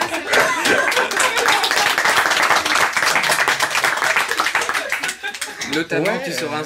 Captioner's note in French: applaudissements